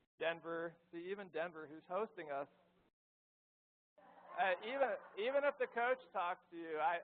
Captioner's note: laugh